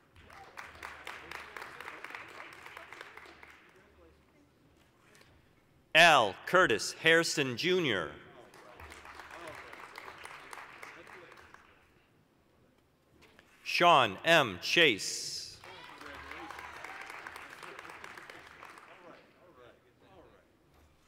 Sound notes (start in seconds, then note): 0.0 applause; 8.4 applause; 15.5 applause, cheering